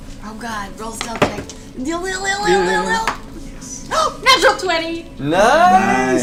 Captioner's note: gasps